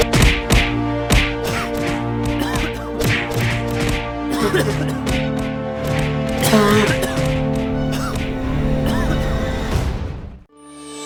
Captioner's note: violent Coughs